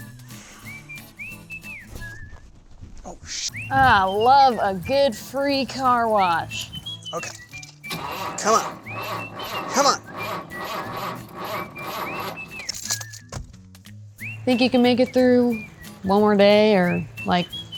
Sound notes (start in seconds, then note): 7.6 turns ignition; 12.6 upbeat music